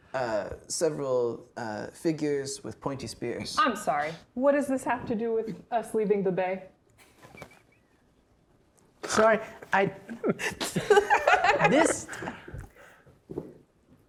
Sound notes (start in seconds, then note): 6.8 chuckling; 10.1 players laughing